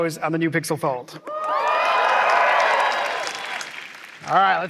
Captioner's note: cheering